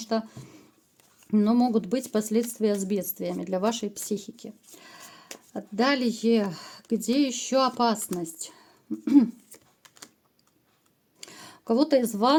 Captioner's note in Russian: откашливается